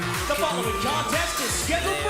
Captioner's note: bell ringing